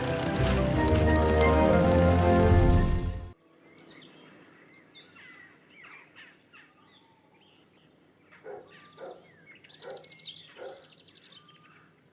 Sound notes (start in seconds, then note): 3.5 birds Chirping; 8.5 dog Barking